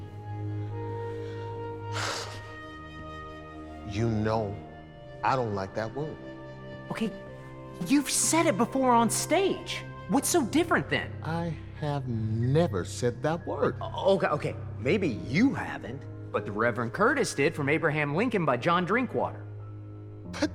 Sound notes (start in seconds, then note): 0.1 haunting orchestral music; 1.7 sighing